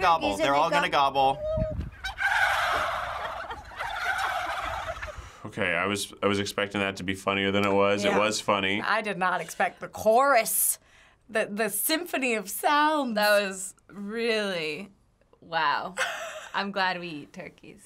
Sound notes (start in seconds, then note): 1.9 turkeys gobbling